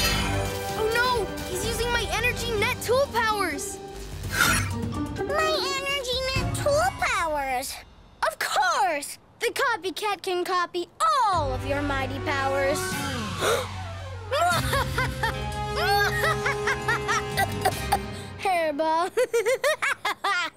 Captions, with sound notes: Oh no, he's using my energy net tool powers! My energy net tool powers! Of course, the Copycat can copy all of your mighty powers! [evil laugh] [coughing] Hairball. [evil laugh]